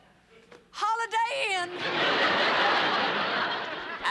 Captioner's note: laughter